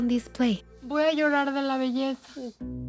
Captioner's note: speaking Spanish